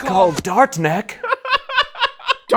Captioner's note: laughter